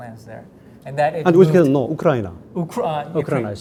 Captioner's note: speaking in Korean